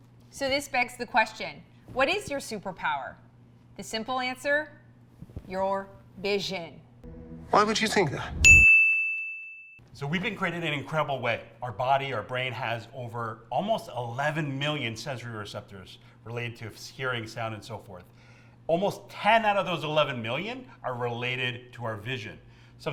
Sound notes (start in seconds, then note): 8.4 bell dings